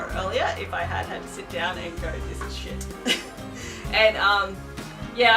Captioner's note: laughs